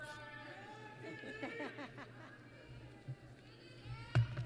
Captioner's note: laughter